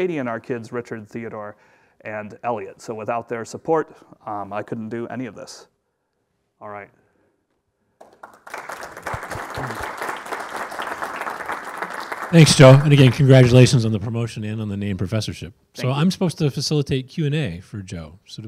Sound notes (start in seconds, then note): 8.0 audience claps